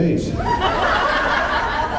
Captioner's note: laughs